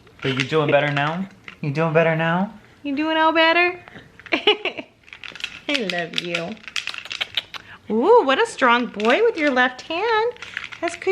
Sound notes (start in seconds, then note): 4.3 laughing; 6.9 smooching